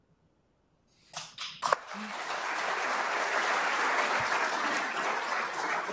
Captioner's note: applause